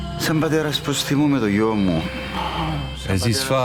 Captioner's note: father speaking in foreign language